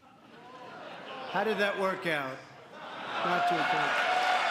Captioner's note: laughter